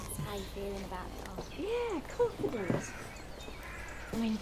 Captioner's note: birds chirping